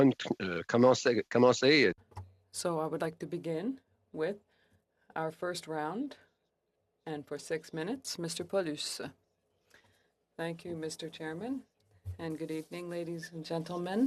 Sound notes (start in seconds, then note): 5.9 speaking French